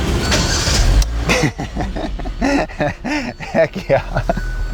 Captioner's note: car starting